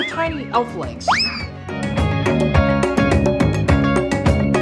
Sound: cartoonish whistling; energetic music

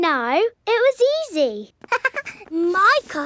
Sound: chuckles

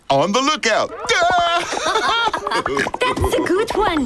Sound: laughing

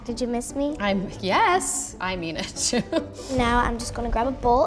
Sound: laughs

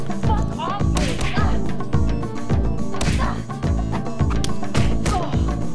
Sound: punches smacking

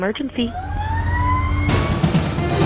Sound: siren wailing; upbeat music

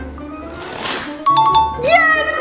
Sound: bell rings

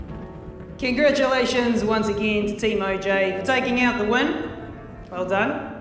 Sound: loudspeaker

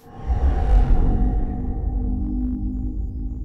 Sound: ominous humming

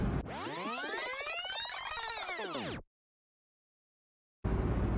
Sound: electronic whizzing

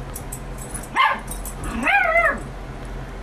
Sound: Ella barking

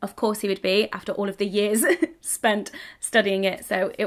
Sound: laughs

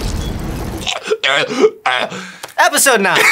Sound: exaggerated blood gurgling

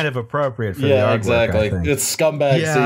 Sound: laughter

